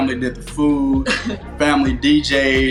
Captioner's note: laughs